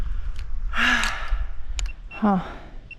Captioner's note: huff